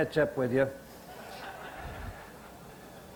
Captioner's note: audience laughter